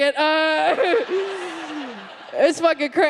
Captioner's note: audience laughs